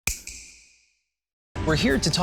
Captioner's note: snap